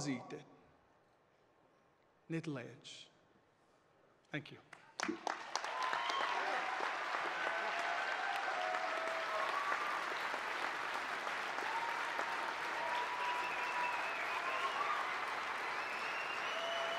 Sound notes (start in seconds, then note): 1.3 speaking alternate language; 8.4 applause